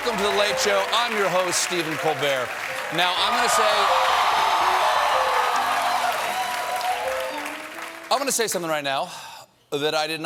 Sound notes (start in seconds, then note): 5.9 cheers and applause